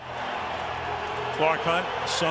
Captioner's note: cheering